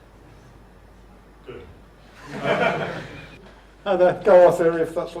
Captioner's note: silence; audience laughter